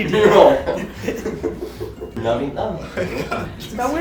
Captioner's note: laughing